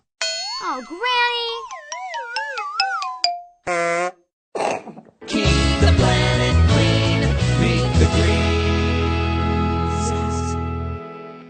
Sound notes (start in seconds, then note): 3.6 horn; 3.6 regurgitates